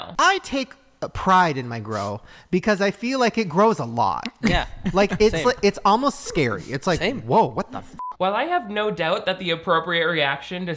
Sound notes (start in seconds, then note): 8.0 beep